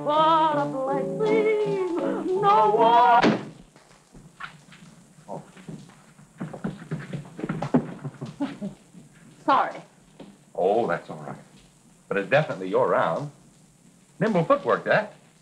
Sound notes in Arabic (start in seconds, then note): 3.1 إغلاق الباب بقوة; 8.4 يضحك